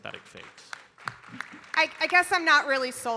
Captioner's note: audience applauding